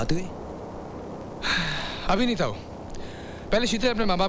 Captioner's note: Sighs